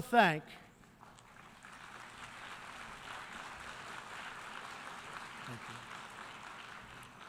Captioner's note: applause